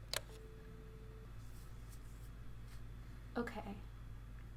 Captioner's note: button clicks